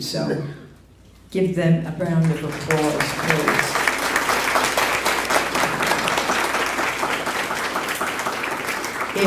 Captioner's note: applause